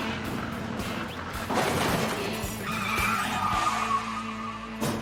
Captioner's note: Ruedas chirriando